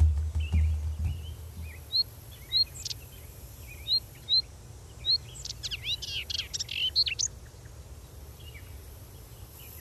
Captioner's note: bird